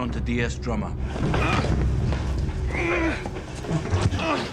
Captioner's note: grunting